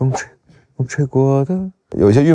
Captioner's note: the wind blows